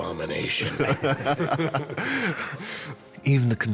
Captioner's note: all laugh